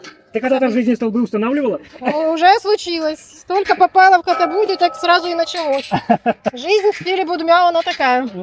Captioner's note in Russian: смех